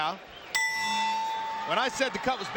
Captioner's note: bell rings